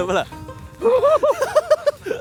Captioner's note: joyful yelling